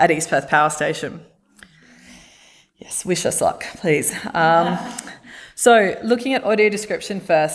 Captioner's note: laughter